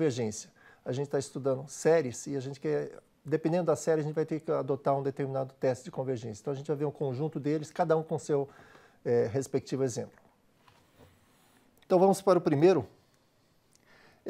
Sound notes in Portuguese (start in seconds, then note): 9.3 pausa sonora